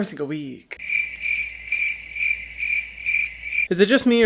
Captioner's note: crickets stridulating